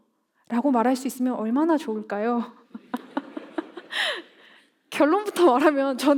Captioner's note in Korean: 웃음